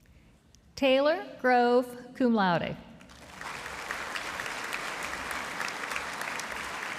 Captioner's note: audience applauding